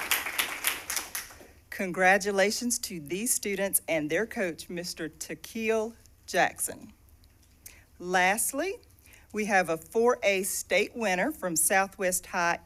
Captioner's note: cheers and applause